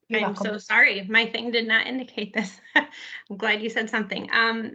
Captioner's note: chuckles